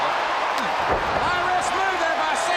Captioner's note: crowd cheering